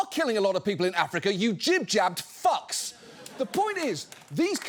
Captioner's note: audience applauds